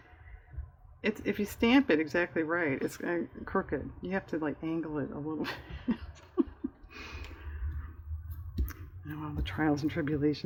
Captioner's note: laughs